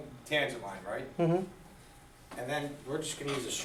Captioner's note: voiceover